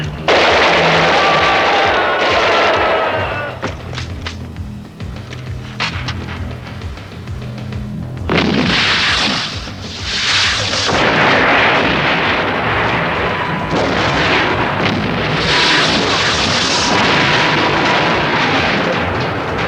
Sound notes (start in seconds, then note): 5.1 gun clicks